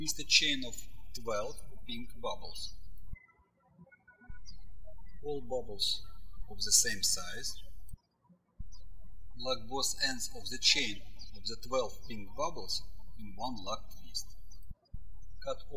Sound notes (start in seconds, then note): 3.8 birds chirping